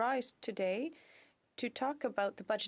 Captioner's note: speaking French